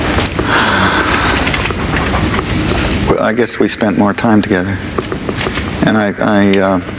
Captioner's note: sighs